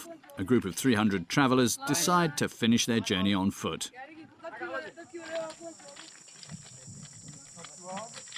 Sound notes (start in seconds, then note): 4.0 indistinct chatters